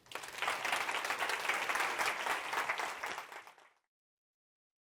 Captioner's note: applause